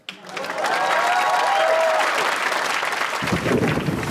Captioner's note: audience applauding